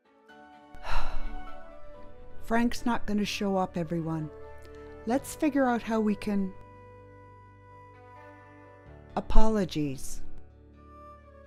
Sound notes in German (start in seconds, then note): 0.8 Seufz